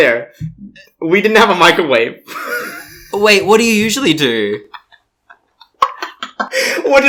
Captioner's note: laughs; laughs